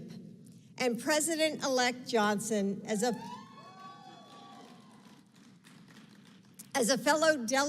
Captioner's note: applause